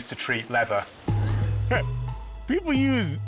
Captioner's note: laughs